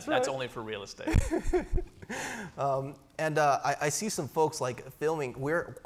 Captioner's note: laughs